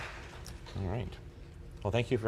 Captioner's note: applause